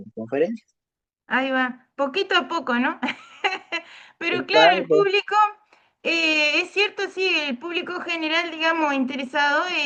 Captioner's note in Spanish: risas